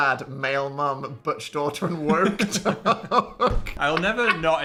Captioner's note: laughing